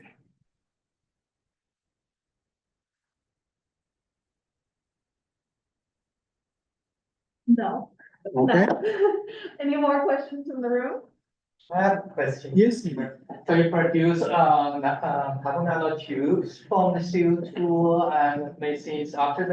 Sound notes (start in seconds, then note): 8.3 laugh